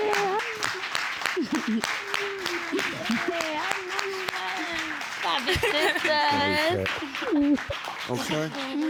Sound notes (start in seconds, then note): 1.3 giggling